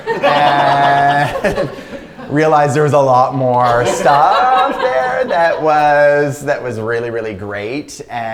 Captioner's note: laughter; laughter